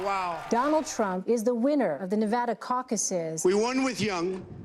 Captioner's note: crowd cheering